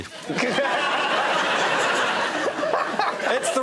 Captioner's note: laughter